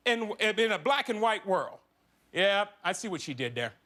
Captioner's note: none